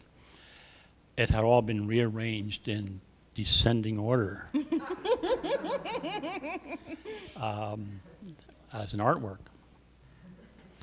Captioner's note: laughter